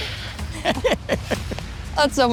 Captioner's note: laughs